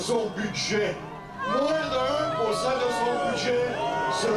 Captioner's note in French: huées